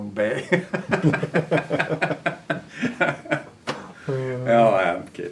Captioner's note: laughter